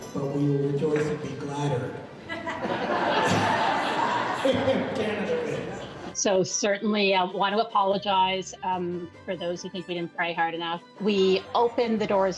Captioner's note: laughter